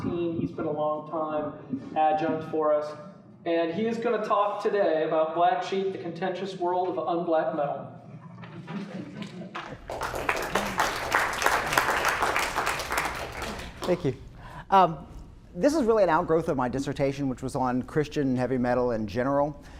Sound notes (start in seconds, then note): 9.5 applause